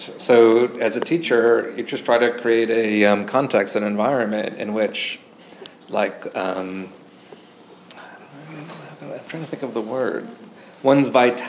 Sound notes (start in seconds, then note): none